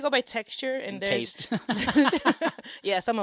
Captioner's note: laughs